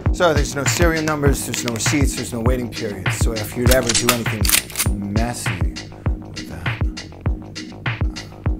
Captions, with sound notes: So there's no serial numbers, there's no receipts, there's no waiting periods so if you were to ever do anything - [gun cocking] -messy with that.